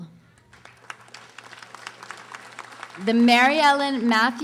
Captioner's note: audience applauding